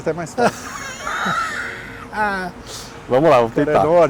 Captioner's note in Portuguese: risos